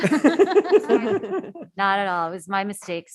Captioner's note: laughs